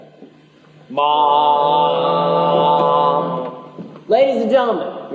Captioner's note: vocalised ship's horn